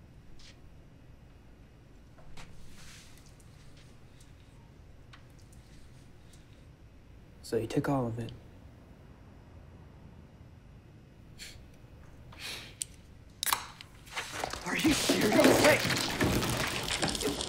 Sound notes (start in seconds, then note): 11.3 laughing; 14.1 soda pouring